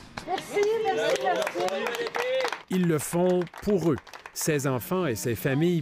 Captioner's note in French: applaudissements